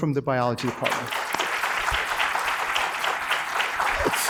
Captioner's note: applause